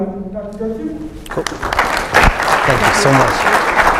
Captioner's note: audience applauds